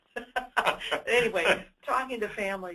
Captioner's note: chuckles; laughs